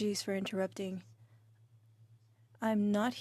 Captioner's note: speaking French